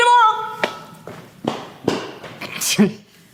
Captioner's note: loud footsteps